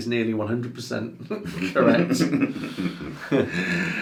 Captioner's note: laughs